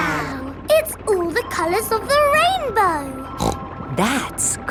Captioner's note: snorts